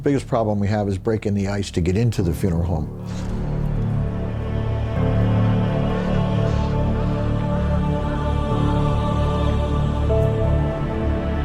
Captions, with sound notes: - The biggest problem we have is breaking the ice to get into the funeral home. (somber music) (crow calling)